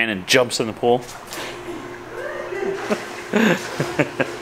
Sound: laughing

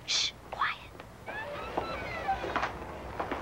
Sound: door creaks; footsteps clacking

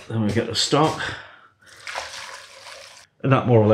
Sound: sploosh

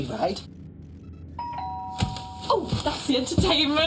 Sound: doorbell rings

